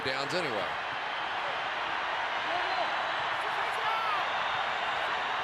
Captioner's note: crowd cheering